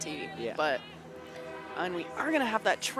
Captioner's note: horn blows